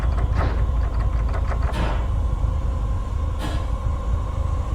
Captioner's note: doorknob rattling; something clattering; tense horror music swelling